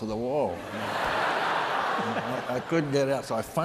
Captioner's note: laughter